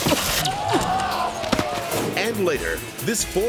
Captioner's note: crowd groans; zip line squeals